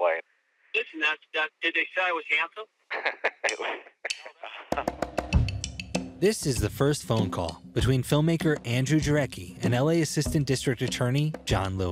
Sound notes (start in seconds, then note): 2.9 laughs; 4.4 lively music plays